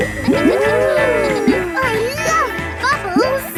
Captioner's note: kids gasping and laughing